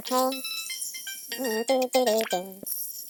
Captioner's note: doot doot dooting the build station theme